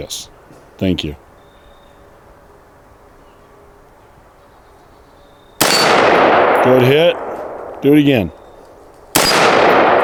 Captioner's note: gunshot